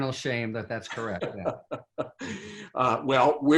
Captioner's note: laughs